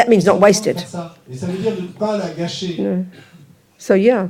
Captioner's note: speaking in French